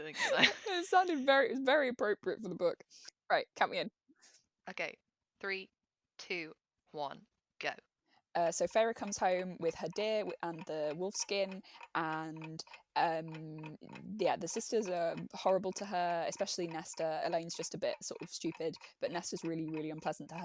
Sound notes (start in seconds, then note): 7.8 tick tock noise